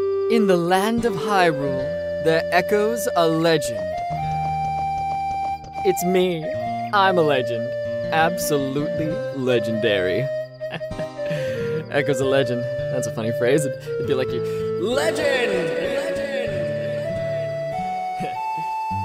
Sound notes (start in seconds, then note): 0.0 pleasant opening music; 10.7 laughs; 15.2 voice echoes across Hyrule